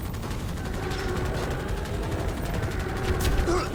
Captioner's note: weapons firing; alien growling; player grunting